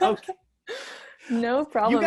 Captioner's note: laughs